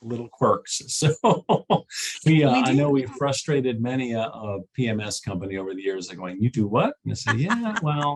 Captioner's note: chuckles